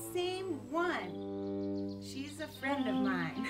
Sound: laughs

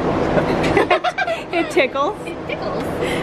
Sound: laughs

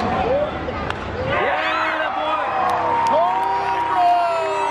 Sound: cheering

